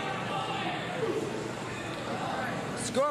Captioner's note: cheers and applause